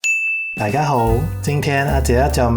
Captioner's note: Cantonese